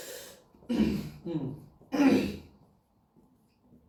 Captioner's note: clears throat